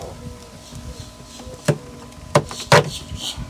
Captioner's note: knocking